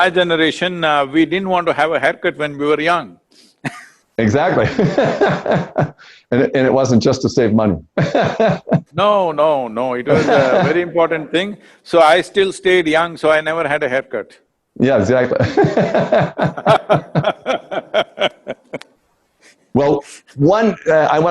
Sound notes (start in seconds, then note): 7.9 laughs; 15.3 both laugh